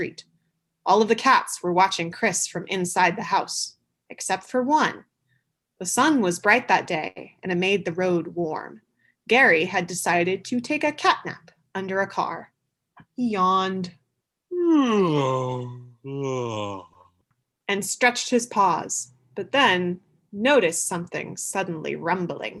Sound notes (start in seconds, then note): 14.5 yawning sound/actor